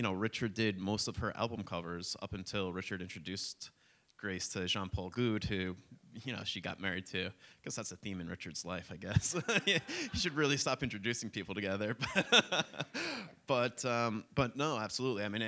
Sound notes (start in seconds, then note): 9.2 laughs; 12.0 laughter